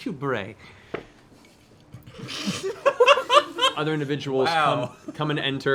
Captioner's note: laughs